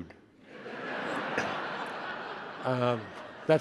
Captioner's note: attendees laughing